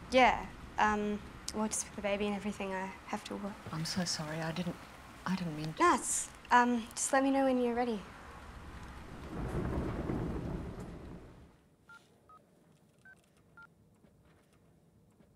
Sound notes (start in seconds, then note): 11.8 phone beeps